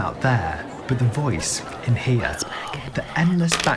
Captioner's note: voice whispering